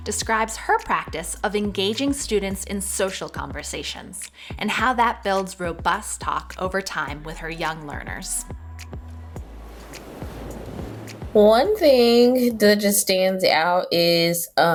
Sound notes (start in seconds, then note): 8.4 gentle upbeat music; 8.7 air whooshing